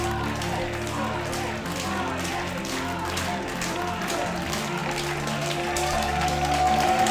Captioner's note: applause